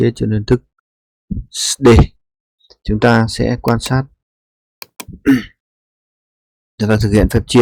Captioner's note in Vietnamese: hắng giọng